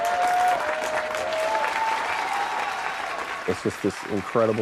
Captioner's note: crowd cheering